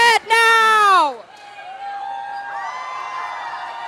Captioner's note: crowd cheers for murder